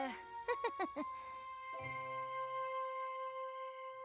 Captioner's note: chuckles nervously